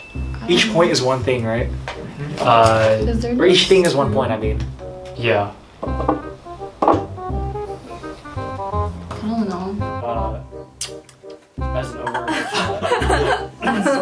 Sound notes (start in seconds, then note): 12.0 laughs